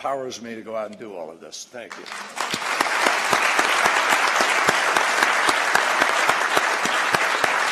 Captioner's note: applause